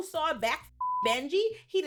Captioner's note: beep